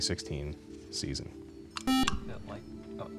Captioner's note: buzzer